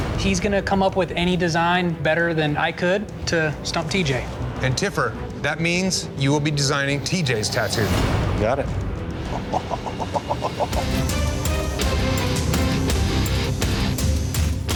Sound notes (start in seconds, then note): 9.2 chuckling; 11.1 dramatic music